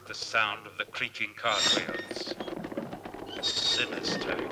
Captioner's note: cart wheels creaking